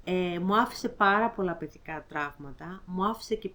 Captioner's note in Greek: none